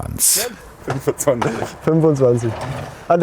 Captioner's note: laughs